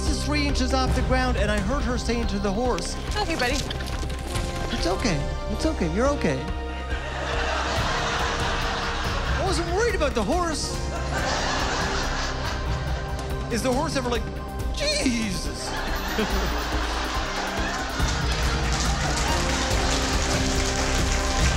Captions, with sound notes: Amber, her face is three inches off the ground and I heard her say to the horse okay buddy. It;s okay it's okay you're okay (Laughter) I wasn't worried about the horse. Is the horse ever like "Jezzzus". (Laughter & Applause)